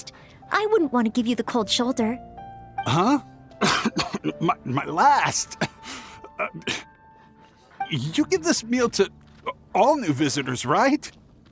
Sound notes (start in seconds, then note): 3.6 coughing; 6.3 choking